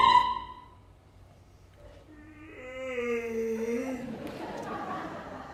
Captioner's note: yawn!